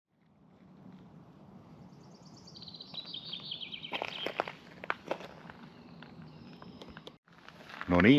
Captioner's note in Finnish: lintujen laulua